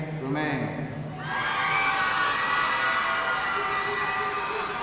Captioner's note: audience cheering